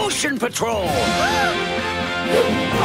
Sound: gasping

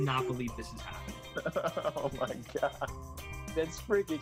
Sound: chuckling

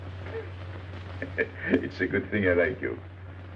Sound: laughing

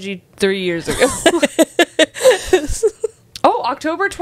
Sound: panel laughing

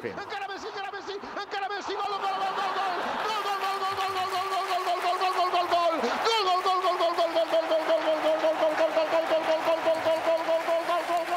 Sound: speaking catalan

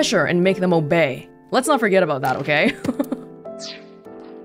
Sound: chuckles

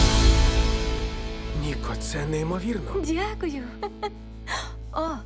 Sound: music fades; laughs

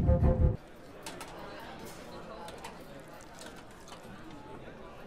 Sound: customers chattering

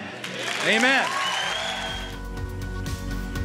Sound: applause

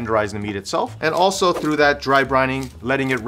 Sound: air whooshing

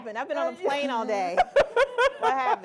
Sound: laughing

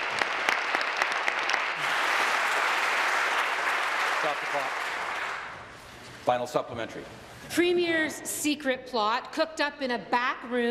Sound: applause

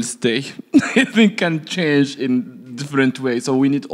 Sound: laughs

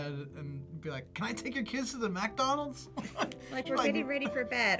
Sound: laughs

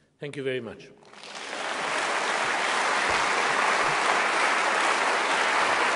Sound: applause

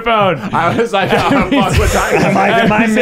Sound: laughing

